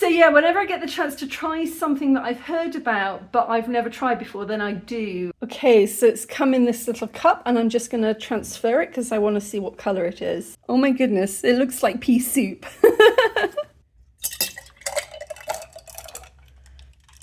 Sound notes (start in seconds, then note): 12.8 laughing; 14.2 ice cubes clinking